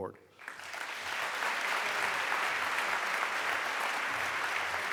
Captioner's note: applause